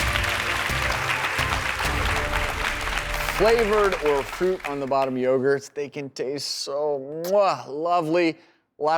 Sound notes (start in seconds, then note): 0.0 crowd applauding